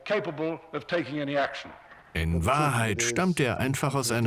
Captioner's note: voiceover